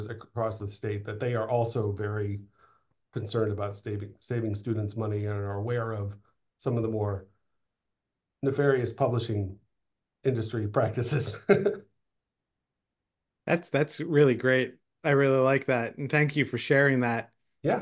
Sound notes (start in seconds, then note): 11.0 laughing